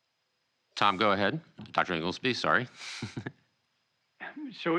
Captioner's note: laughs